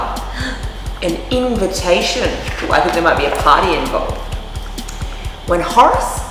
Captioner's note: gasp